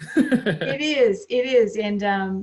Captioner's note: laughs